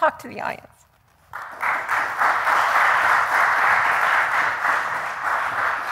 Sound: applause

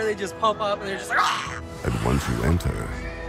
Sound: screams

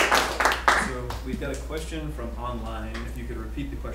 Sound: clapping; voiceover

